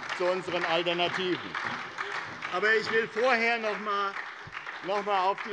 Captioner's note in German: Beifall bei der SPD